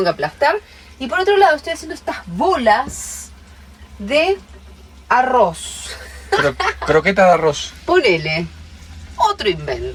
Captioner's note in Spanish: risas